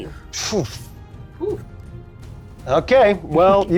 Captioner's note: sighs